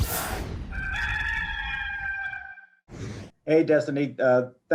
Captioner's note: cock crows